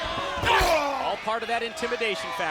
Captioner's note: Booker groaning